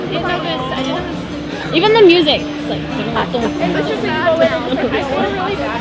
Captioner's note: imitates the beat